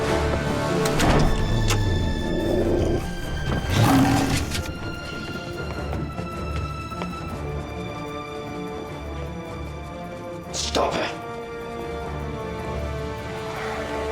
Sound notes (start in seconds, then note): 2.5 lock clicks